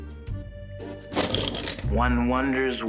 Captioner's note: pencils rattle